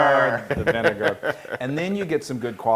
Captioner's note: laugh